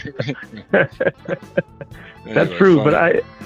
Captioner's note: laughing; laughs